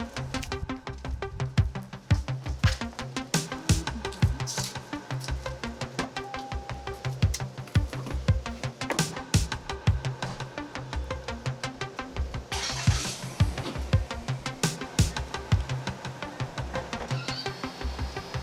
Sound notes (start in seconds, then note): 12.2 car starting